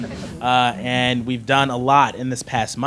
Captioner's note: audience laughing